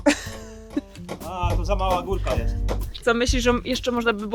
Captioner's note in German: lacht; spricht in einer Fremdsprache